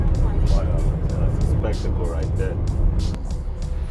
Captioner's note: traffic sounds